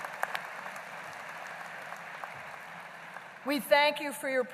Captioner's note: applause